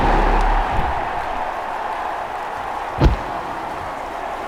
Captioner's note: loud crowd cheering